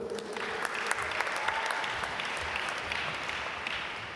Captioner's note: applause